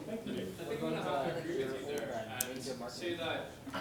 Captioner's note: whispering